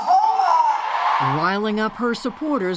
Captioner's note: cheering and applause